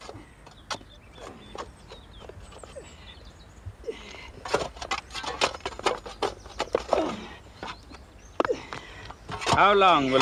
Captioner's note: Noise of spade work – Gravedigger pants